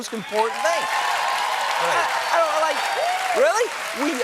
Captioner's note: cheers and applause